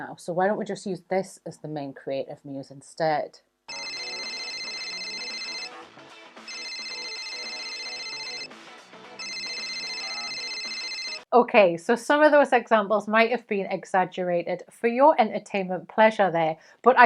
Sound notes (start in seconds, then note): 3.7 phone ringing; 3.7 upbeat music